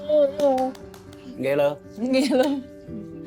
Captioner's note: kisses